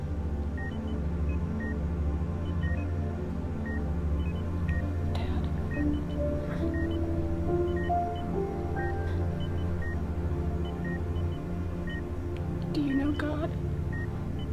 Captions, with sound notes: Dad? (gentle pensive music) (monitor beeping) Do you know God?